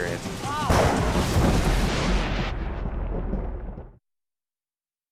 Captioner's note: thunder crashes